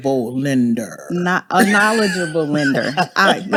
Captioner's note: laughs